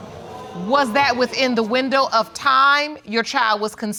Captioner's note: audience exclaiming